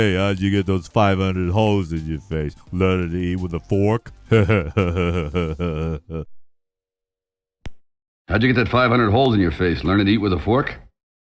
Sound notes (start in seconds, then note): 4.2 laughs